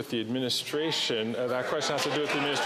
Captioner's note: applause